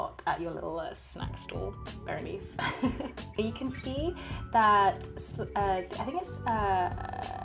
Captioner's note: laughs